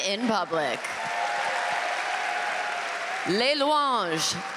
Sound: applause

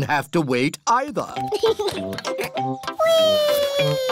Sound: laughs

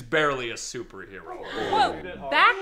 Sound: Supergirl gasps

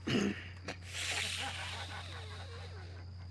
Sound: crew laughing

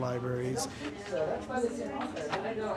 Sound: chatter

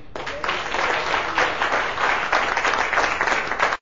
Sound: audience clapping

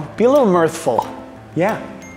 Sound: pop

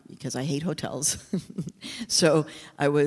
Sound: chuckles

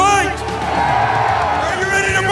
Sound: cheers

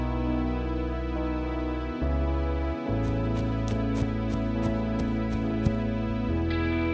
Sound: footsteps

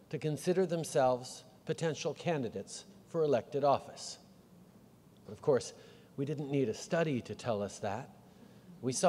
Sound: none

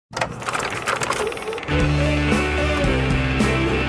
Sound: mechanical whirring; indie rock music

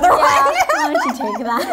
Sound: laughing

